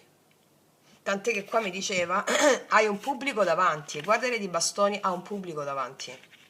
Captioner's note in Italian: schiarire la voce